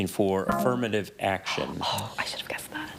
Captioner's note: buzzer buzzes